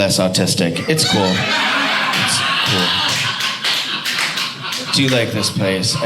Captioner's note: audience laughing